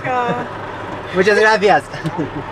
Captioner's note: in Spanish